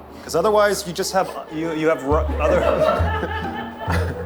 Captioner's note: laughter